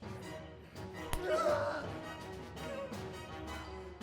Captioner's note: shouts